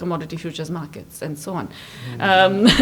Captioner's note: laughs